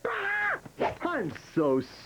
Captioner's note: screaming